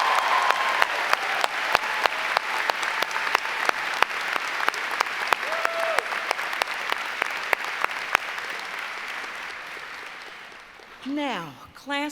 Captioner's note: applause